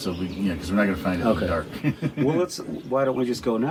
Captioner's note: laughs loudly